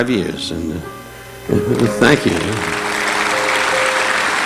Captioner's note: audience applauding